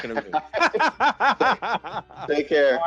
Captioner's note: both laughing